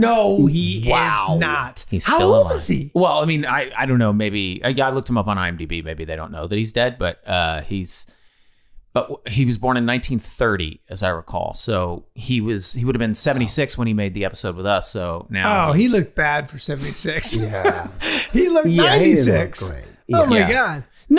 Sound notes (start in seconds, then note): 16.8 Charlie laughing